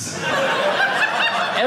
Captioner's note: audience laughing